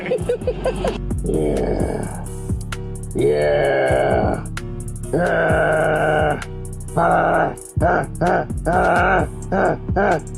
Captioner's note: laughing; grunting